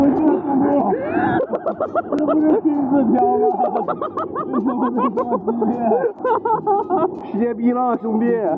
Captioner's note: villain laughter